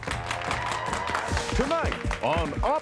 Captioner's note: <i> applause</i>